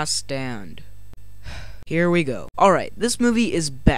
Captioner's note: sigh